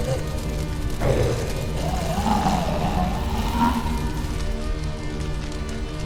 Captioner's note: growls